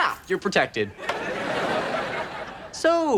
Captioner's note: audience laughs